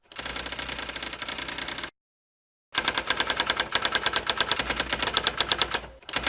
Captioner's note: sound of teletype